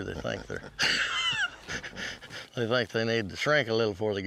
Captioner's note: laughs